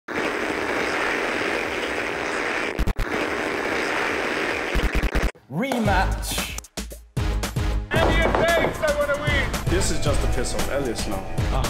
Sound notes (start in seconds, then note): 0.1 static hissing; 7.2 heavy music